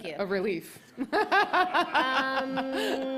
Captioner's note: laughter